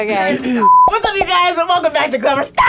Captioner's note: beep